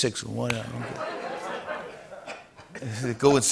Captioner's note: laughter